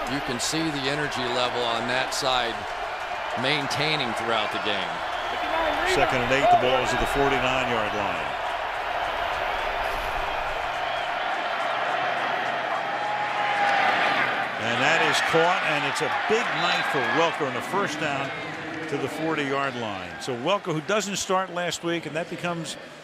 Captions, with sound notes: You can see the energy level on that side maintaining throughout the game. Second and 8. The ball's at the 49-yard line. [crowd cheering] That is caught. And it's a big night for Welker, And a first down to the 40-yard line. So Welker, who doesn't start last week and that